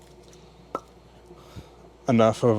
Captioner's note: bottle cap popping